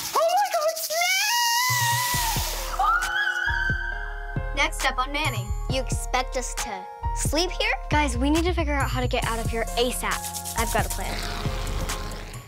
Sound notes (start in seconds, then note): 0.0 rattling; 2.6 screaming